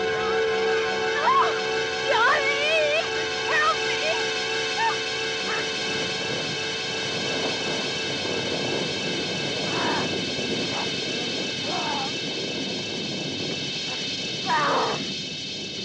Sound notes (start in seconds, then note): 8.7 ghoul growling, grunting